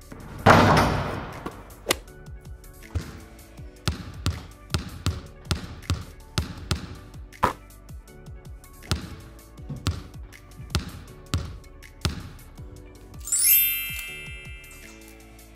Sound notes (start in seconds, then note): 1.8 sounds of hitting a golf ball; 4.1 more basketball bouncing sounds; 13.2 chimes